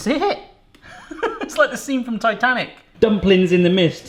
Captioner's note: laughing